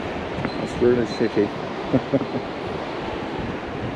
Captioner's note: laughing